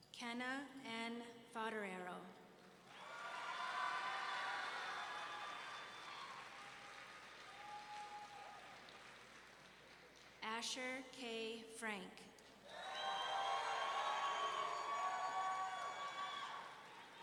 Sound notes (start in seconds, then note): 2.9 audience cheering; 12.6 audience cheering